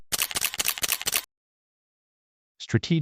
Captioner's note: camera clicking